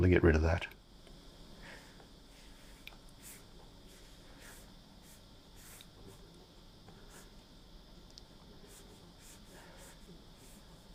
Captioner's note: silence